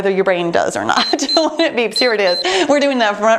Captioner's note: timer beeps